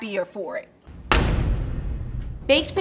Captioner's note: dramatic whooshing